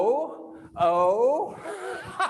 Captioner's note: laughs